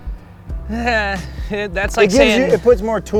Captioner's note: sighs